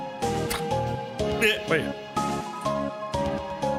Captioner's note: laugh